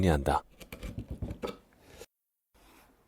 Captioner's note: chiseling sound